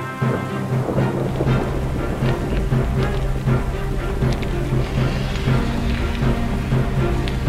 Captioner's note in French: Grondements similaires à ceux d'un tremblement de terre